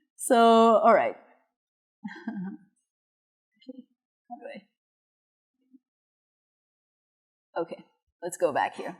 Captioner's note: laughter